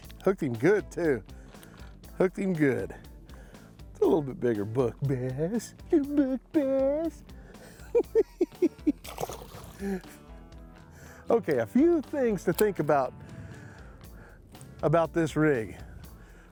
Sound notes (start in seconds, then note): 7.6 chuckling